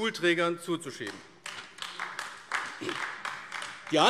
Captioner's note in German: Beifall AfD